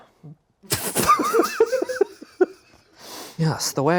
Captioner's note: everyone laughs